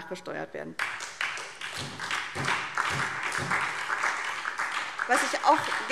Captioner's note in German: Beifall